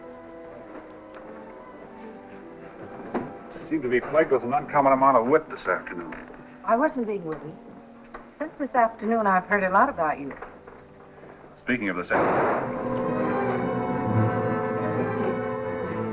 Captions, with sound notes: I seem to be plagued with an uncommon amount of wit this afternoon. I wasn't being witty. Since this afternoon, I've heard a lot about you. Speaking of this afternoon-- [GUNSHOT] [DRAMATIC MUSIC]